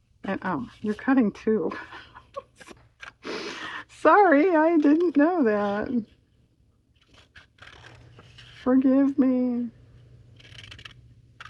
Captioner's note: laughs